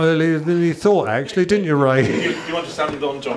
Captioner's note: chuckles